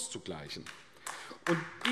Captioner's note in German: Beifall AfD